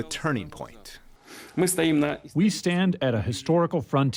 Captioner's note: through translator